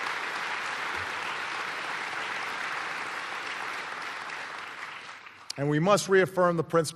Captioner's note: applause